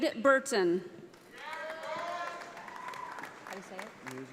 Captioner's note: audience applauding